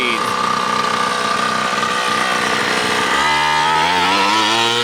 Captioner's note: motor revving